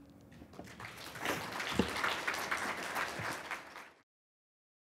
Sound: audience applauding

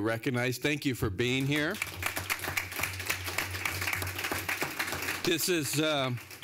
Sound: applause

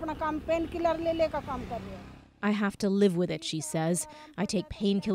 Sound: speaking Foreign Language

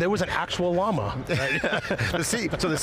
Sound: chuckles

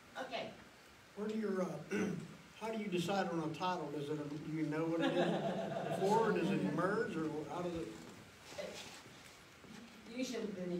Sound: laughs

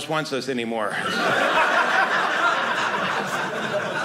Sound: audience laughing

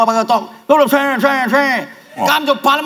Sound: talk in slang

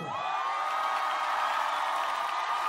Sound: screams and Applause

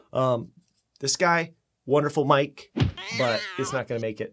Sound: cat screeching

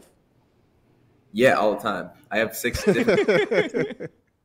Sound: laughs

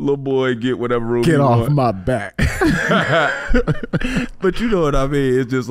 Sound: laughing

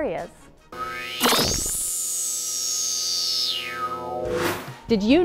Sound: sound Effects

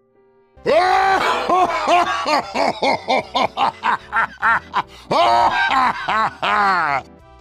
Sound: tf2 heavy laughter

